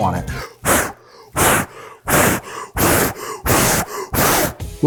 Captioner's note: blowing